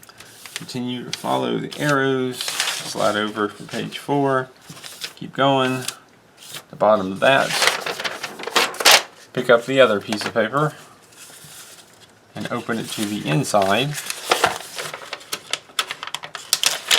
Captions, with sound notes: Continue to follow the arrows slide over to page four. Keep going. At the bottom of that pick up the other piece of paper and open it to the inside [paper rustling]